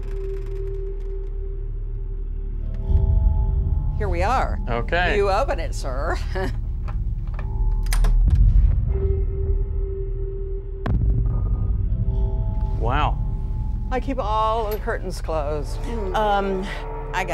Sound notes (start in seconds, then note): 6.3 laughs